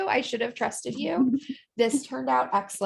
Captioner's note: laughter